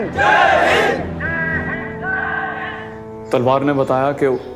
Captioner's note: crowd